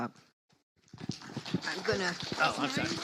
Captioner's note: audience applauds